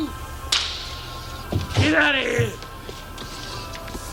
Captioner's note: slap